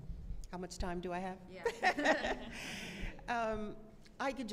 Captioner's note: laughter